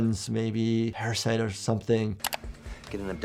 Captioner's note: mouse clicking